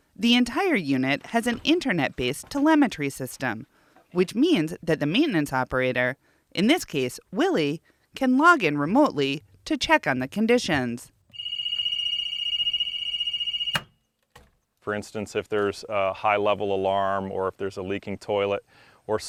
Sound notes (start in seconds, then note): 11.3 alarm rings; 13.7 switch clicks